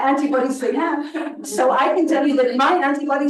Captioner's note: attendees laughing